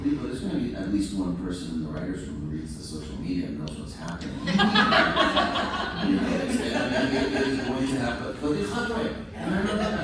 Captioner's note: laughter